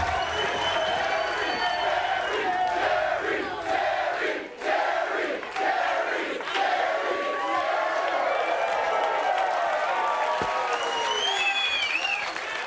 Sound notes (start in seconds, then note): 6.8 audience cheering